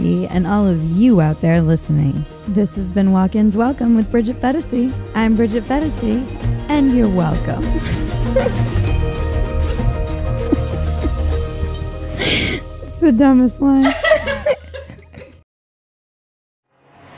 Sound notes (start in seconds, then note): 7.8 laughs; 13.8 laughing